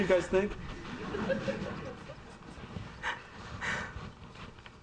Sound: audience laughing

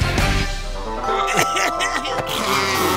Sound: coughing; honking

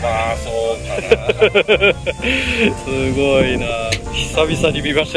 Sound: laughs

